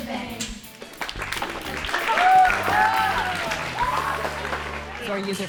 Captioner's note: all applaud and cheer